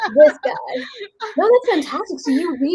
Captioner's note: laughs